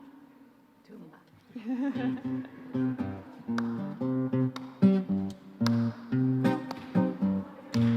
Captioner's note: soft laugh